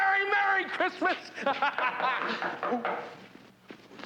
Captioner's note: laughs